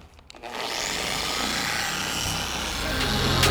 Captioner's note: polisher whirring; hip hop music